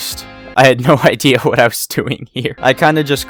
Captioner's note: laughingly